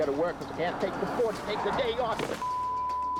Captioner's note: beep